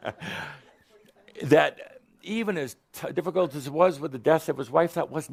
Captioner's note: Adamus chuckles